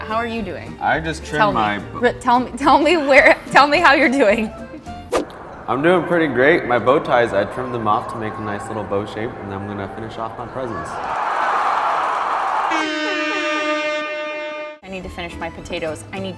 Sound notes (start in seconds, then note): 11.4 cheering; 12.6 air horn blasting